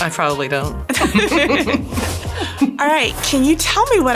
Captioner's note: both laughing